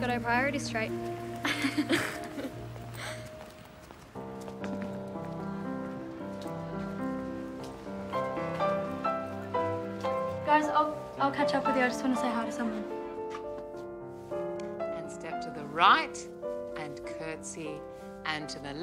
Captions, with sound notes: I like a girl who's got her priorities straight. [laughter] [piano music playing] Guys, I'll catch up with you. I want to say hi to someone. And step to the right, and curtsey,